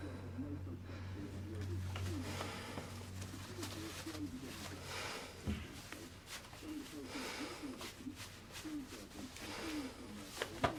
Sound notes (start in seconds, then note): 2.6 Robert breathing heavily